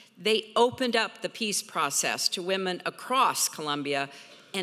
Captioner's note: none